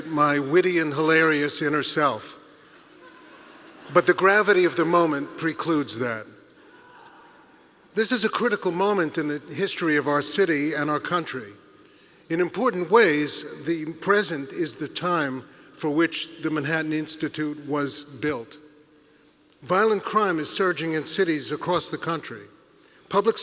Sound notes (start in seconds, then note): 2.9 audience laughing